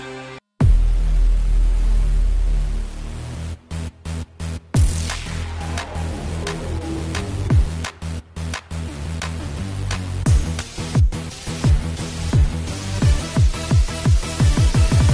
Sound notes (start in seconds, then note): 0.9 pulsing electronic music; 4.8 clapping